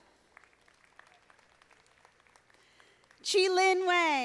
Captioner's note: audience applauding